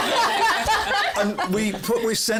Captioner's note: laughter